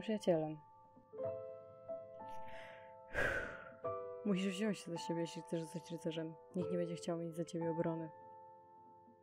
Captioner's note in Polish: ciężko wzdycha